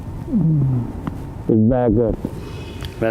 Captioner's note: sobs deeply